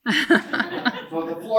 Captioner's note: laughing